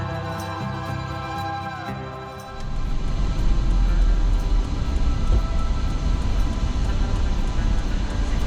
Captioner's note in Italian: Applauso